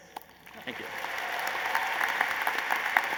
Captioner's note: applause